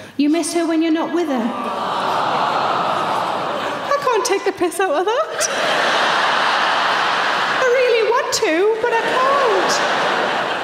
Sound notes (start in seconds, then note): 1.5 audience awws; 5.1 audience laughing